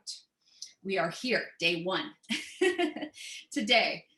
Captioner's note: laughter